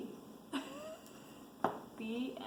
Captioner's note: laughs